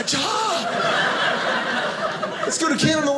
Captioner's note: audience laughing